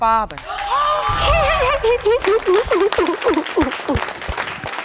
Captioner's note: audience clapping; sobbing